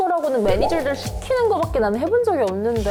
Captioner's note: unconfident sound effect